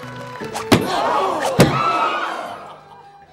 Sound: all gasping

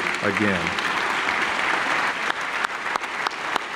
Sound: clapping

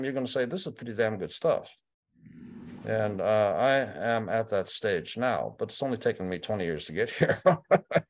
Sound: laughter

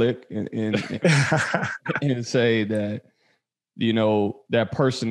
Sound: all laughing

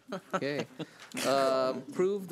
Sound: laughs

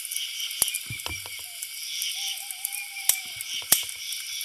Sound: birds chirping

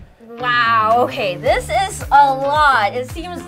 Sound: none

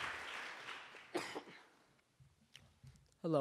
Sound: coughs

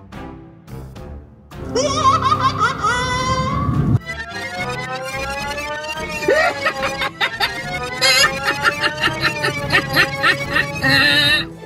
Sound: laughing

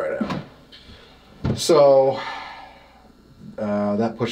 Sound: sighs

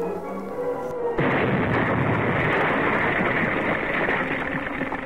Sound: explosion booming

